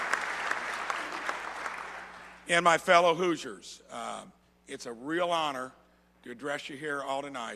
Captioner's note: applause